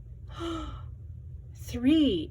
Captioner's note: gasps